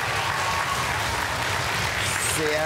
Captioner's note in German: Jubel